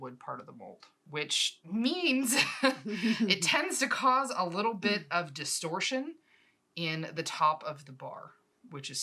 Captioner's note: aggravated laughter